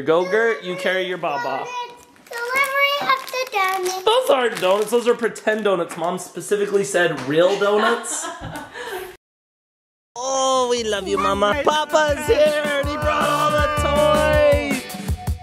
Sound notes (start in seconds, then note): 7.6 laughing